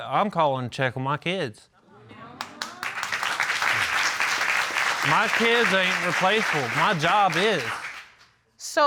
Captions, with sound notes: I'm calling to check on my kids. [applause] My kids are irreplaceable. My job is.